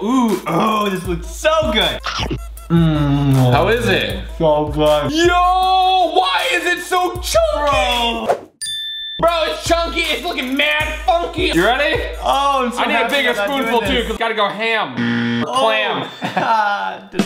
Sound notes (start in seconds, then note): 8.6 bell chiming; 15.0 buzzer; 16.0 laughing